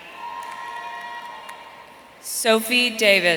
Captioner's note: audience cheering